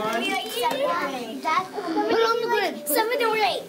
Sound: kids talking

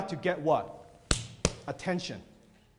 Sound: hands clapping

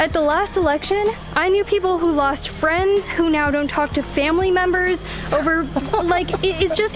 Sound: laughing

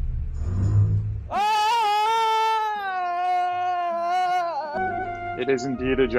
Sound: screams

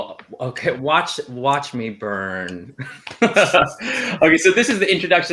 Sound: laughs

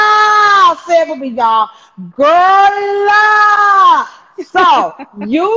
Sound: laughing

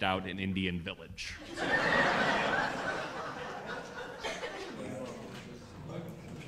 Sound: laughter

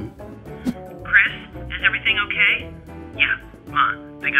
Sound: whip sound; phone voice

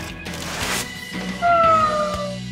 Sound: crying

